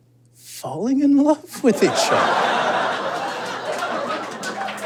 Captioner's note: audience laughs heartily; audience applauds